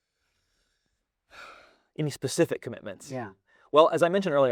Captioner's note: sighs